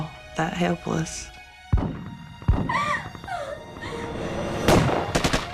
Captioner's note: crying